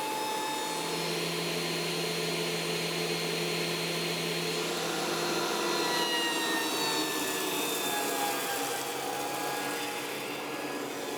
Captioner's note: planer whirs